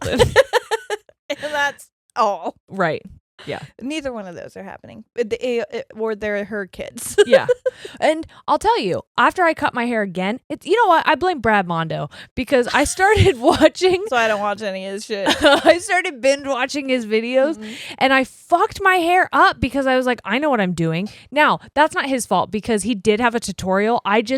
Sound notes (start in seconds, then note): 0.0 both laughing; 7.2 laughs; 13.3 both laughing; 15.3 laughs